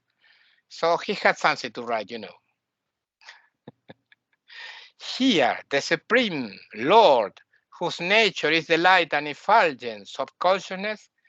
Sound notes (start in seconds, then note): 3.6 laughing